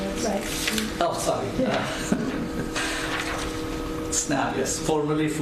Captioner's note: laughs